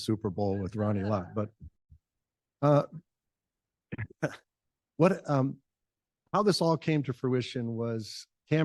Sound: chuckle

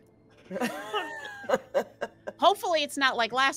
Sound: laughs

